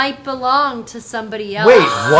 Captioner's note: gasps